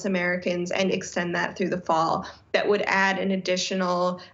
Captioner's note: none